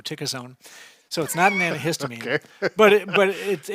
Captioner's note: laughing